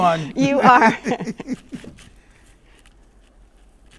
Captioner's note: laughs